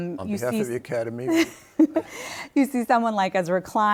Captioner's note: chuckles